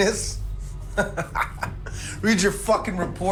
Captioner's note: laughing